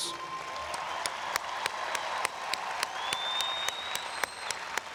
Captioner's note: audience applauds and cheers